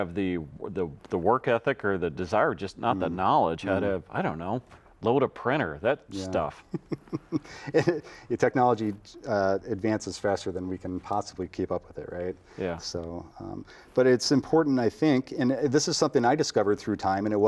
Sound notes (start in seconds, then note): 6.5 chuckles